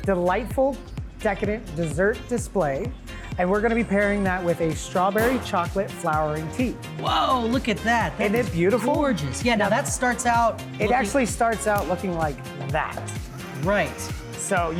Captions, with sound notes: I don't own a can opener. (judges chattering)